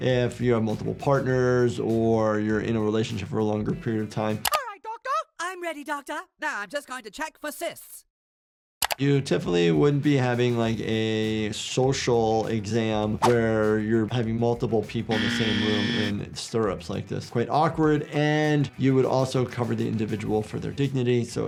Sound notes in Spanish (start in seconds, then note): 15.1 sonido de zumbido